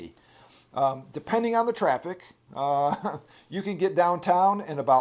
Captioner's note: chuckles